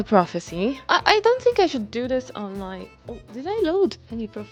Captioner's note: trails off